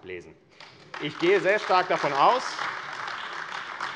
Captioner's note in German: Beifall AfD